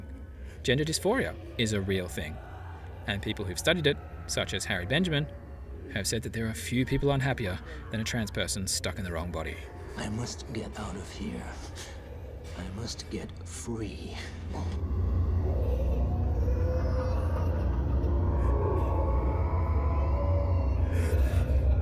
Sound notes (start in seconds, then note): 14.4 sobbing and creepy laughter